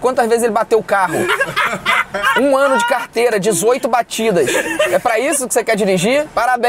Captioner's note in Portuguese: risadas